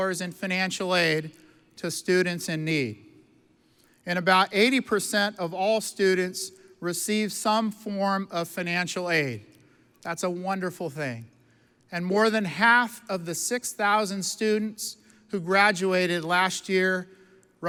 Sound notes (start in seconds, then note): none